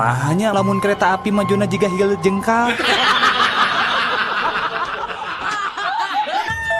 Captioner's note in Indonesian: tertawa